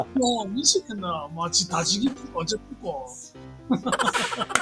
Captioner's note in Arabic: بلهجة بوسان; بلهجة بوسان